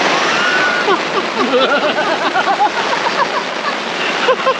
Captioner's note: all laughing